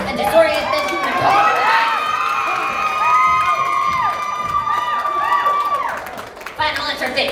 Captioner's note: crowd Cheering